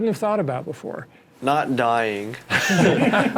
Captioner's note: laughs